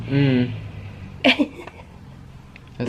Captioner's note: chuckling